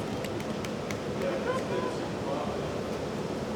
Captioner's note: hands clap